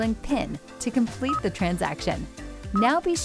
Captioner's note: system beeps